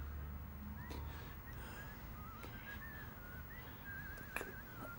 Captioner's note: mailman whistling